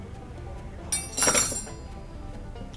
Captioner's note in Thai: เสียงส้อมกระแทกกัน